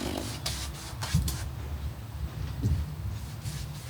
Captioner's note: brush scraping